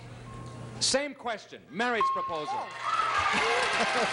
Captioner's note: cheers and applause